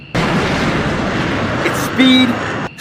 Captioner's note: jet plane engine roaring